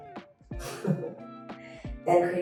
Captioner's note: laughs